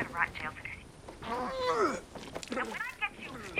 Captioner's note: vomits